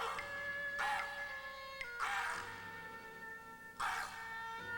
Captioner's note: cawing